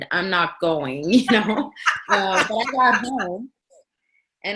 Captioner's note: laughing